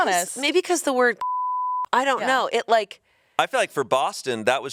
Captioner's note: beep